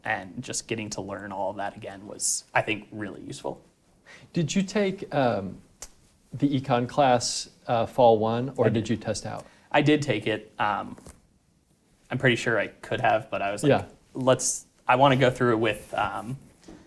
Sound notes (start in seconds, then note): none